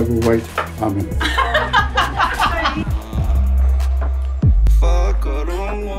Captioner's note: women laughing